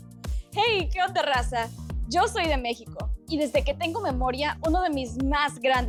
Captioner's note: speaking in Spanish